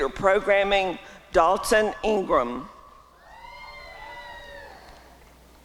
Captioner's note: applause and cheering